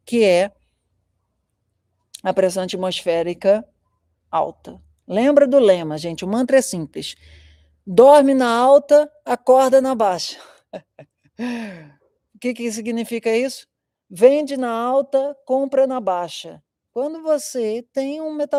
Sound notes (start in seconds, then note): 10.4 laughter